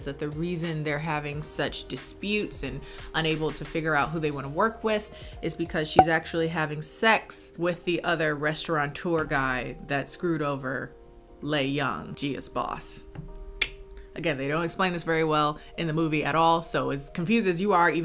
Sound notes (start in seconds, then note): 13.0 clicks tongue